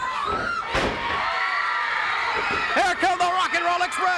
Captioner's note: crowd cheers